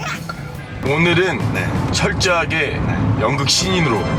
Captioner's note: nervous